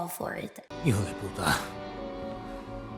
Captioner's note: Menendez in Spanish